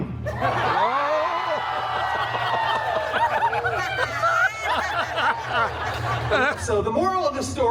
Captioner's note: guests laughing